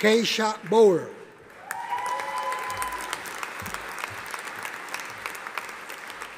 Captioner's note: audience applauding